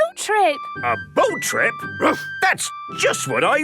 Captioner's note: barks